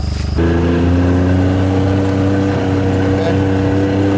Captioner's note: engine revving